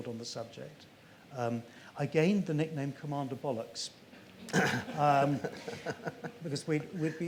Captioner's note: laughs